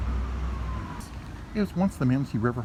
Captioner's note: sirens